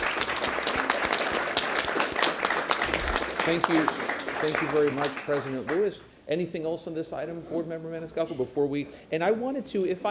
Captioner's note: applause